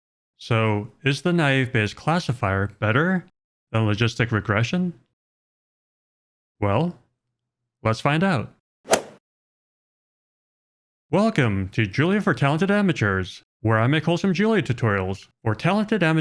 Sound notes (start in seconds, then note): 8.8 golf swing sound effect